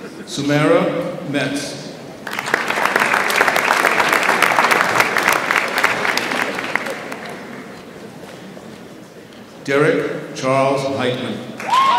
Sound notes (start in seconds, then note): 2.2 audience applauds